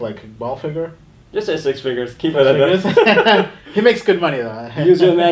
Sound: laughs

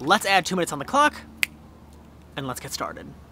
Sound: fingers snap

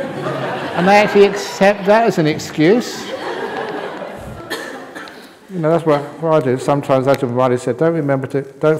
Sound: laughter

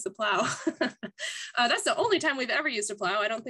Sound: laugh

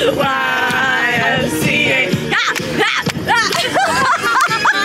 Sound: all laugh

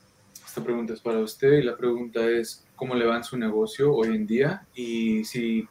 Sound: speaking in foreign language

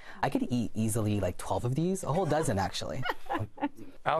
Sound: laughter

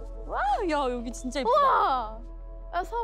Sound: speaks in foreign language

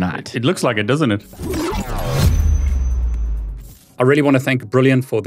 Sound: graphics warbling

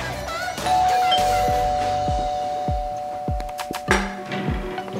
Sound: doorbell ringing

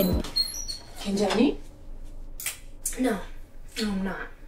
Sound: mom speaks Korean

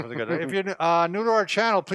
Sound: laughs

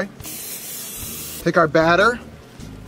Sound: aerosol spray hissing

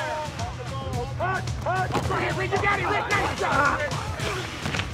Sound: indistinct shouting, grunting

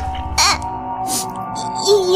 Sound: sniff

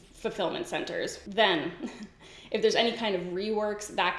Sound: giggles

